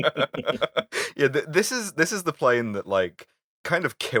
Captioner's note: laughter